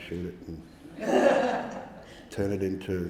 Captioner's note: audience laughing